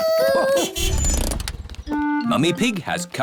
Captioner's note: horn honks